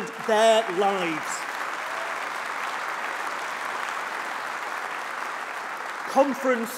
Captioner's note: applause